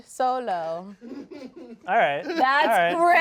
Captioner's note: crew member laughs